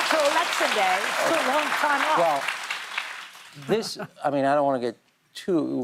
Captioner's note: applause